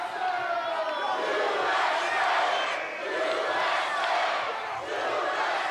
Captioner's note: crowd chants "USA"